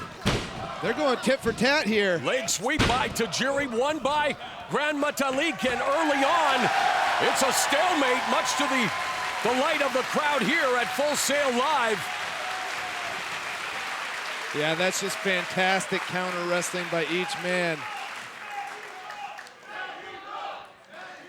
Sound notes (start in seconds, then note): 6.8 audience cheering